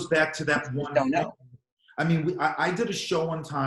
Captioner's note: murmurs